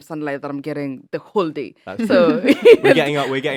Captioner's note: chuckles